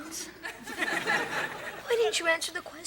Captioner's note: audience laughs